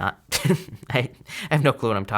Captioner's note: chuckling